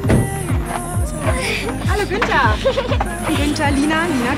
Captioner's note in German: lacht